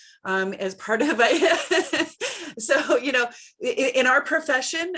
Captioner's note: laughs